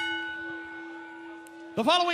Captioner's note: crowd cheering; bell ringing